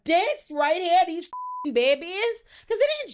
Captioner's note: beep